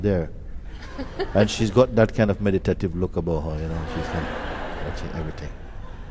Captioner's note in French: rire